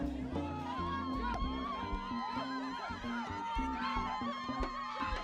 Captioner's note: people cheering